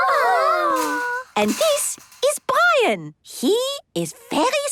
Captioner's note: squeaking